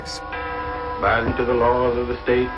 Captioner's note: soundbite of film, "son of ingagi"